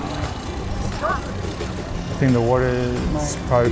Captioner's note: engine roaring